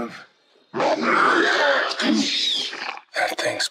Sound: roaring

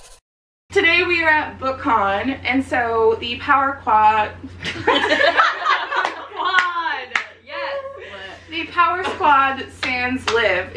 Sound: laughter

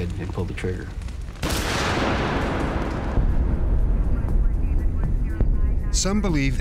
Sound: gunfire ringing

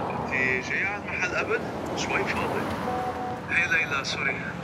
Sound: speaking in Arabic

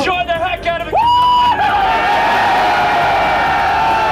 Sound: screaming

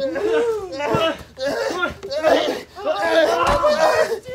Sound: and then grunted and groaned some more

